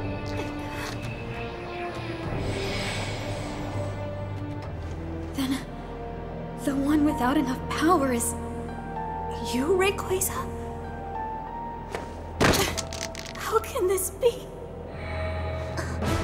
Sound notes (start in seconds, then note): 12.4 stones clatter